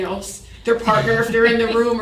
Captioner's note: chuckle